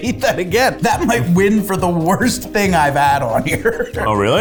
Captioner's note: laughs